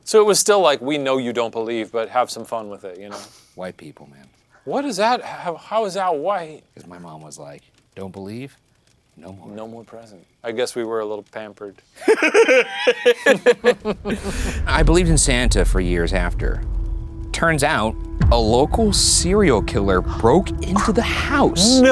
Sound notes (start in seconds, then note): 4.8 giggling; 12.0 laughing